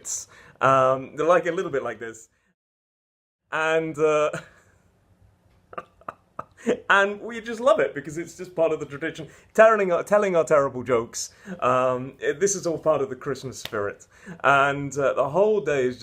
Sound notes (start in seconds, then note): 3.1 laughing